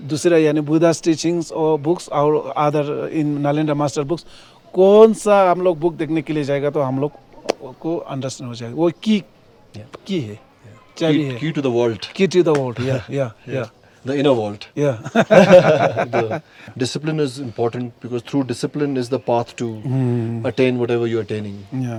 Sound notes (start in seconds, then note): 14.9 laughs